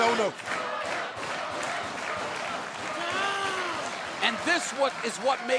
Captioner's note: crowd cheering